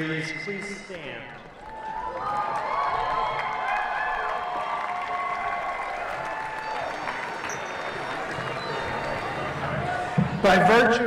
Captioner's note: cheering